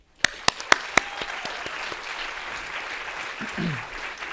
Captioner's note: audience applauding